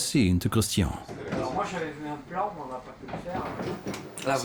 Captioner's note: speaking French